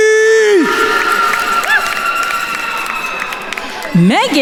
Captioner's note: attendees cheering and applauding